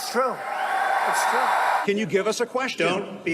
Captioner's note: crowd cheering